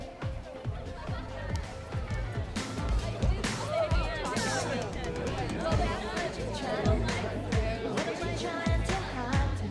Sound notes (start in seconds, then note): 3.1 groovy music; 3.1 people chattering